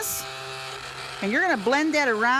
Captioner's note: blender whirrs